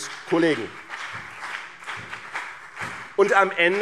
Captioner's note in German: Beifall BÜNDNIS 90/DIE GRÜNEN